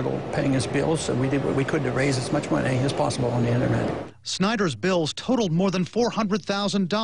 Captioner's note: voice-over